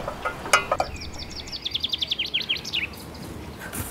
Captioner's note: birds chirping